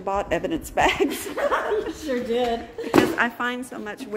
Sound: laughs

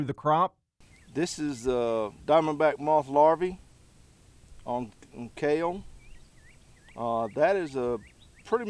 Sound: sparks

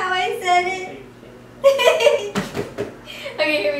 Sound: laughs

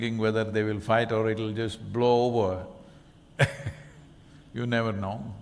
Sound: laughs

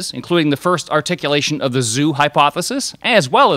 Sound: none

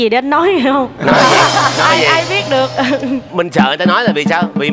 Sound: laughing

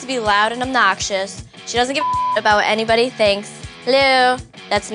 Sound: beep

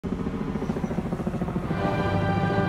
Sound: helicopter noise

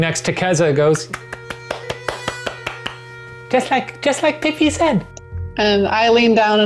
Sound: clapping

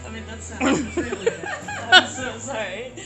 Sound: laugh

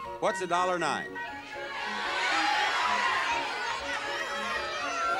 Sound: audience shouting

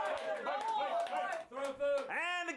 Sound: audience cheering

